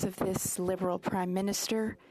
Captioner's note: speaking French